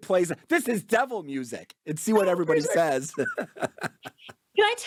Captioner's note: laughs